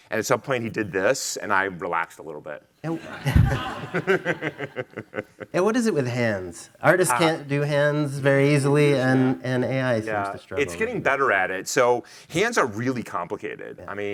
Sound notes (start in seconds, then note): 2.9 attendees laughing; 2.9 laughing